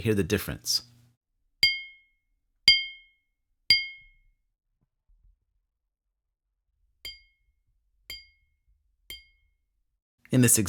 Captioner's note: glass sound effect